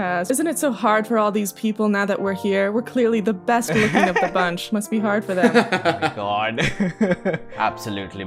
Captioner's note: laughter